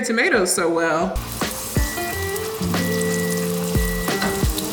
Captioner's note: pan sizzles